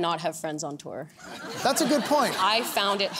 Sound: laughter

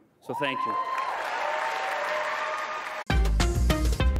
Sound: cheering

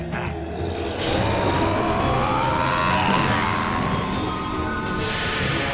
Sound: laughing; roaring

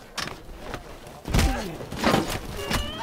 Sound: BB-8 concerned whine; groan

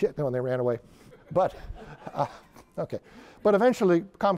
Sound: laughter

